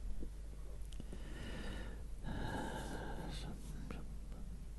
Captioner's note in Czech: povzdech